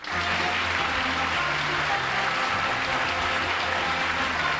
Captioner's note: applause; theme music